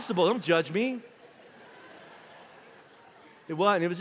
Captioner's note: congregation laughing